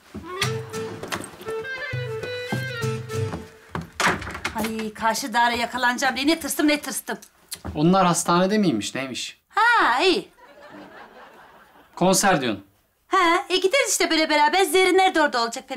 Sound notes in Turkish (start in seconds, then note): 10.3 Gülme efekti